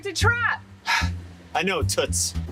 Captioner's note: sigh